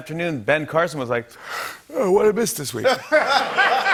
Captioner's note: yawning; laughter